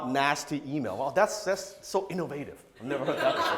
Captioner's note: audience laughs